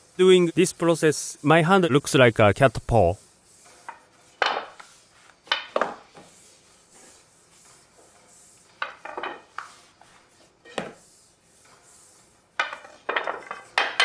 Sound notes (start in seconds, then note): 4.3 wood clattering